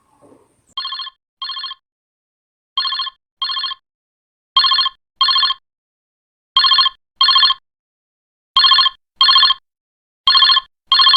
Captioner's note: phone Ring